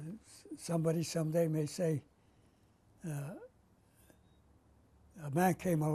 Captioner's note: pauses for 3 seconds